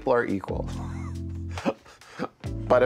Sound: laughs

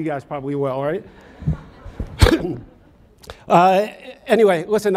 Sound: audience laughs

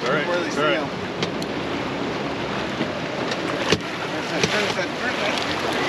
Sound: fish splashing; reel cranking

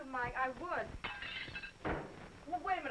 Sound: plates shattering

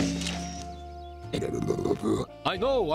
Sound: grumbling

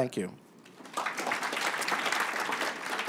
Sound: applause

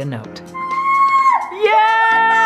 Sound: bright music; yelling

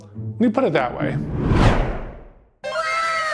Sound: whooshing sound

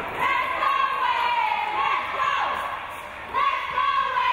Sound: crowd

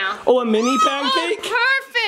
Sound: child screams

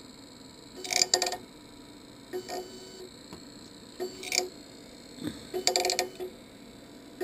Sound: machine crunches

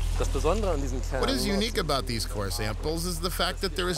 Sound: voice-over

